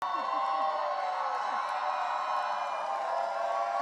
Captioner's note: audience cheering and applauding